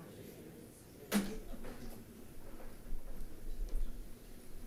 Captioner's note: attendants chattering